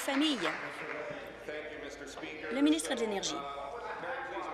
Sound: applause

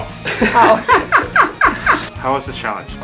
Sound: laughs

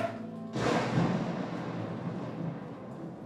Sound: thunder rumbles

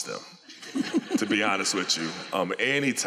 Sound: laughter

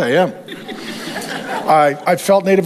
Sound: congregation laughs

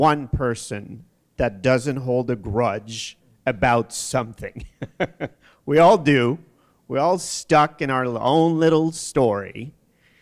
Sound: chuckle

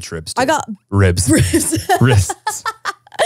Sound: laughs

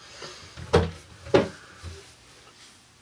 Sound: cabinet door opens

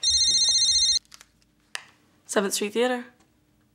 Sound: phone rings

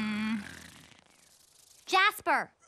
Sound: snoring

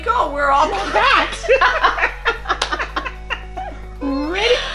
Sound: laughing

